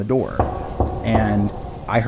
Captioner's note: door knocking